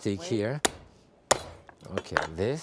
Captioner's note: knife banging